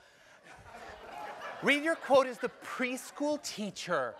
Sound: laugh

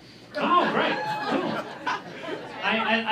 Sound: laughter

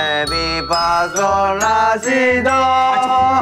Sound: decibel is overpowering

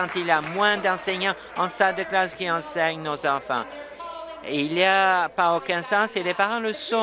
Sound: applause

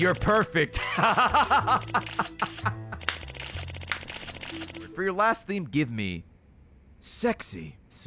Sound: laughs

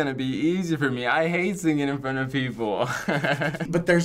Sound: laughing

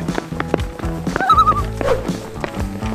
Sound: loon call

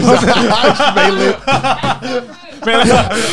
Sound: laughs

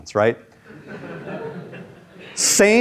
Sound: students chuckle

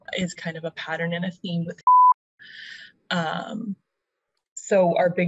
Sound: beep

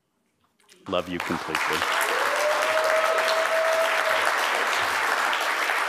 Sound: applause, cheering

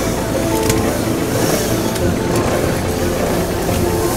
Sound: chainsaw

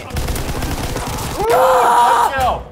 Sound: automatic weapon fires

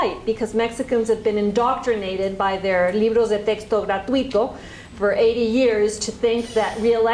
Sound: spanish

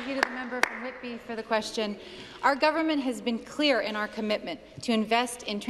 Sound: applause

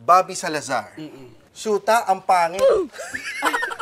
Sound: laughs

